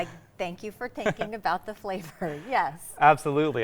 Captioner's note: laughing